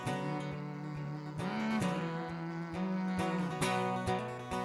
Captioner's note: hums with guitar